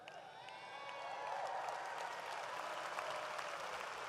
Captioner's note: audience applauds